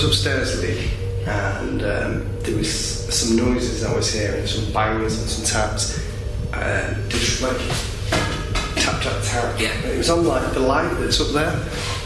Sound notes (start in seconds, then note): 8.0 tapping